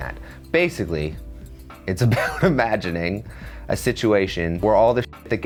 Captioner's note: laughs